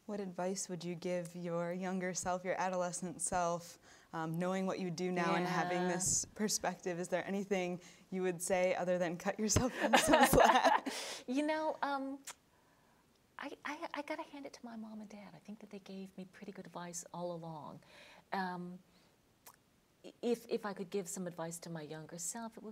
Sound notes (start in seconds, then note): 9.6 both laughing